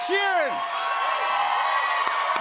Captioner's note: cheers and applause